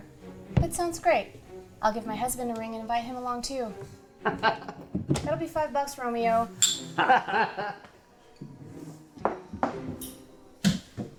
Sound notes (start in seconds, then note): 4.2 Micky laughs; 6.9 detectives laugh